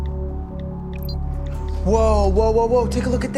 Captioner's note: computer beeps